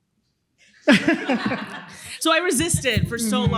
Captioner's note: laughter